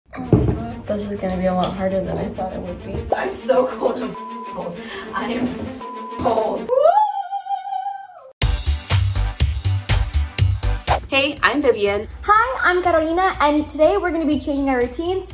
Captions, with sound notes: - Oh, my God. This is gonna be a lot harder than I thought it would be. - I'm so cold. I'm (beep) cold. I am (beep) cold. - Woo! (upbeat music) - Hey, I'm Vivian. - Hi, I'm Carolina, and today, we're gonna be changing our routines